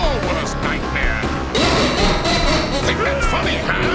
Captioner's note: meanie Laughter